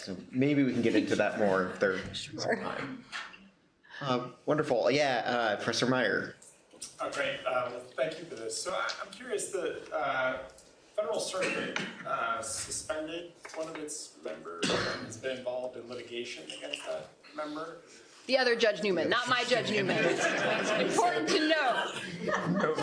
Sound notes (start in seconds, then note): 19.6 laughter